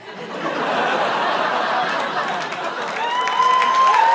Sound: laughter; cheering

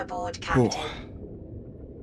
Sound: relieved sigh

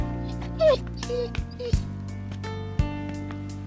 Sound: dog whining

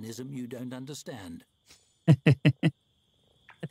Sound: laughs

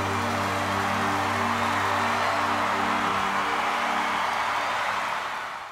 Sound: audience cheers and applauds

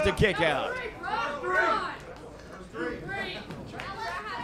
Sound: crowd cheering

